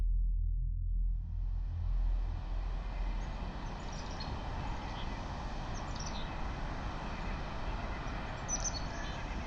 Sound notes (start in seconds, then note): 1.2 wind howling; 2.9 birds chirping